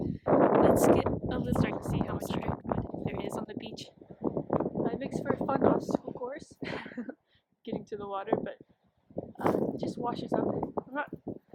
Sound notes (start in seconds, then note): 6.6 laughs